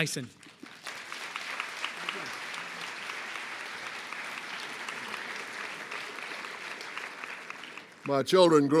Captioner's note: applause